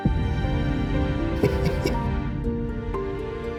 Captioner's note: laughing